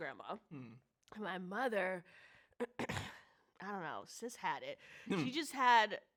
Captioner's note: clears throat